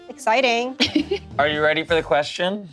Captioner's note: laughs